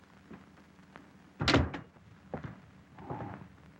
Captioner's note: door closes